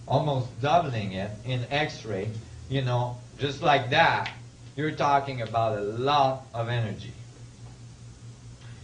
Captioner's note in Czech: lusknití